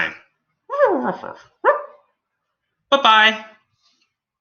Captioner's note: Alien Space Doggy barks